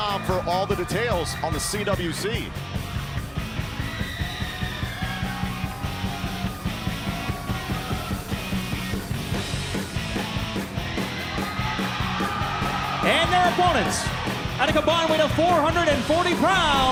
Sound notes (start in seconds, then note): 4.4 crowd cheering